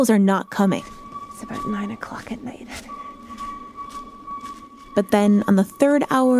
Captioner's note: hoot hoot hoot